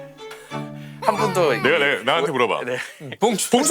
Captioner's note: crying